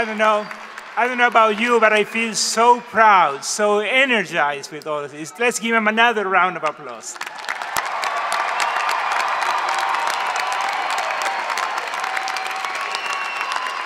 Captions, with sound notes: - I don't know about you but I feel so proud, so energized with all of this. Let's give him another round of applause. (audience clap and cheer)